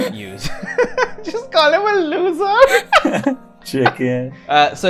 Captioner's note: laughter; laughter